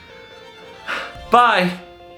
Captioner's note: sighs